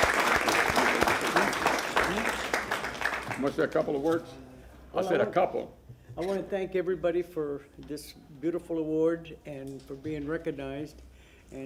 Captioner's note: applause